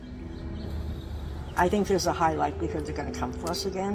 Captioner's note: bird sounds of Stanford campus